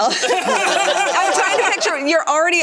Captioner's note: laughter